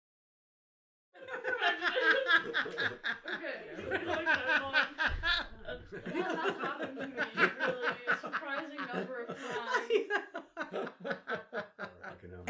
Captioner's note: laughing